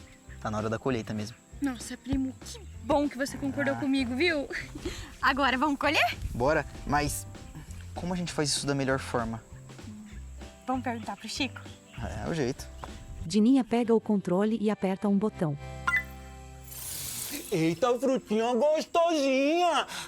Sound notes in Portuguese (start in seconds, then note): 12.8 Pássaros